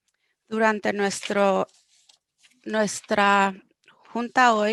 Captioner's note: speaking foreign language